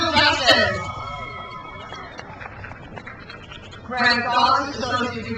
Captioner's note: crowd cheers